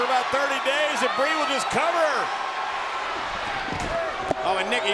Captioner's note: spectators cheering